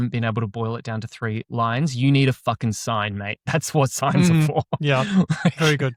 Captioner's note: chuckles